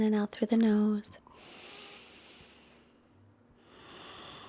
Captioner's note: breathes deeply